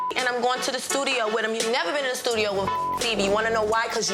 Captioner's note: beep; beep